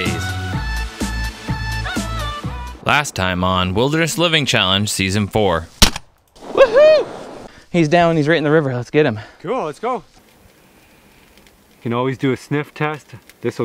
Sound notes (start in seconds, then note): 0.0 upbeat music; 5.8 gunshot